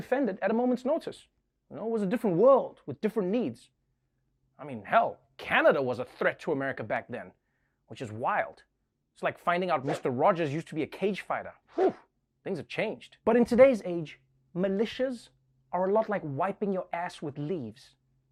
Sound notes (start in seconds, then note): 11.7 exhales